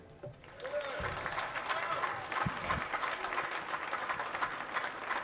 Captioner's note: audience clapping